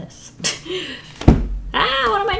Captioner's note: laughs